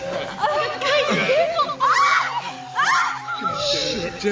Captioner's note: confused speaking